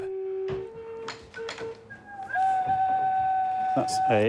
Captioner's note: pipes humming